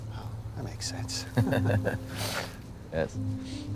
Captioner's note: both chuckling